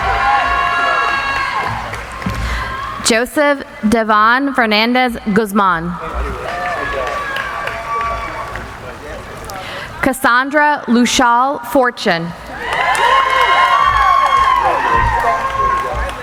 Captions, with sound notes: (cheering) Joseph Devonne Hernandez Guzman. (applauding) Kasandra Loushal Fortune. (applauding)